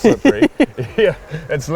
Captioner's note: laughs